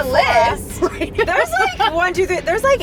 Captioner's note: laughs